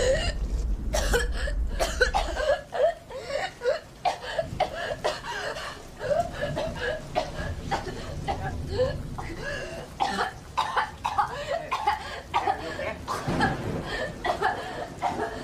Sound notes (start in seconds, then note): 0.9 woman coughs